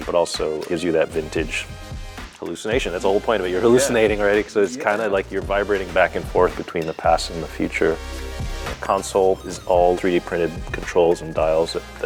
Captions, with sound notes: but also gives you that vintage hallucination. That's the whole point of it, you're hallucinating right?(laughs) - Yeah. - So it's kinda like you're vibrating back and forth between the past and the future. The console is all 3D printed controls and dials